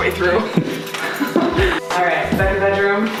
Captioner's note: laughing